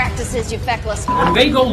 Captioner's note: beep